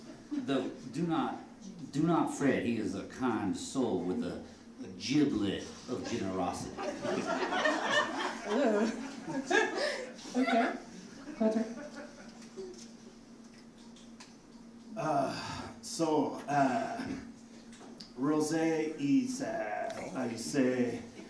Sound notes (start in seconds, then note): 6.0 audience laughing